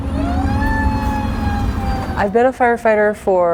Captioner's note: siren wailing